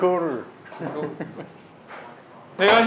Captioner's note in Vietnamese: Cười